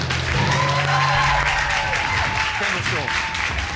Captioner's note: audience cheering